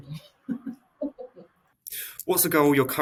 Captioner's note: chuckles